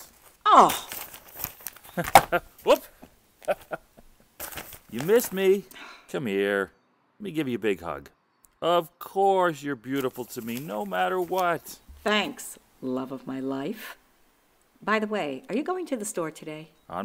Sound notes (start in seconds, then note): 3.4 laughs; 5.7 STUMBLELINA sighs